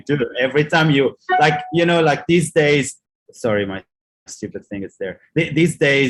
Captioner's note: email notifications bell